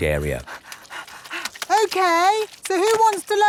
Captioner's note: panting